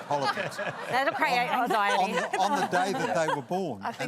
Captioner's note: laughter